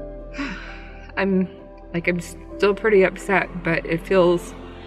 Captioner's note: sighs